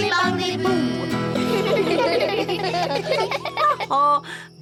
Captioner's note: all giggle